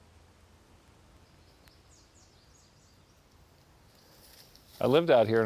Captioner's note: birds chirping